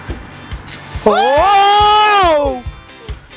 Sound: screaming

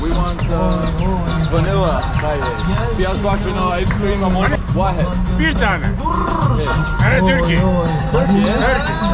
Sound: speaking Arabic

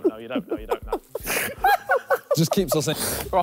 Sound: laughing

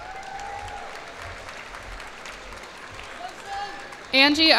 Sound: cheers and applause

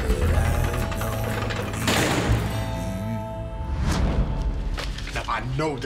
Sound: cell door closing and slamming

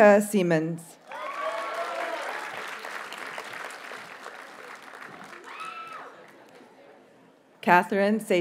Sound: audience cheers and applauds

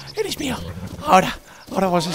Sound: breathless

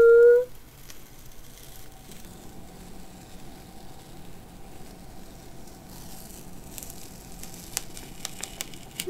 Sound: tape peeling

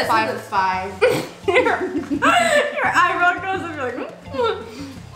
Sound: laughs; makes funny noise

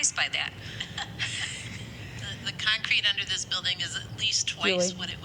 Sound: laughter

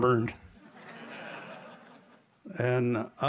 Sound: laughter

